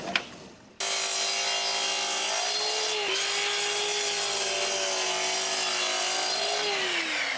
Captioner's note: sawing